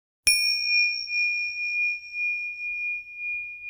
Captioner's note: bell pinging